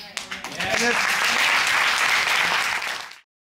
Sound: applause

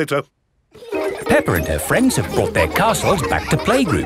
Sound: children laughing

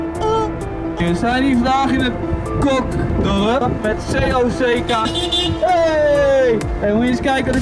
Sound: car horn

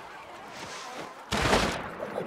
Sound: splash

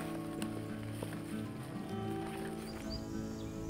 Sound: grass crunching; birds chirping; gentle music continues

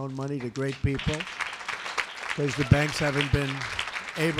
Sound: applause

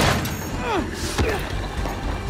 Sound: grunts

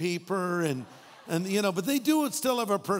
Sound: audience laughing

